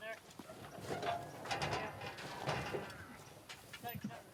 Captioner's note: gate rattling